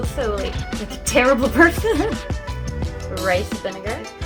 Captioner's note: laughs